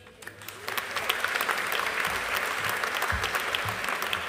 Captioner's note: audience applauding